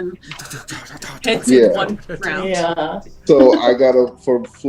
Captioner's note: spinning noise